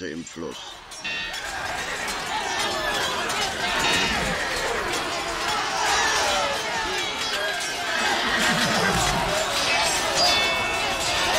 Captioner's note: noise of battle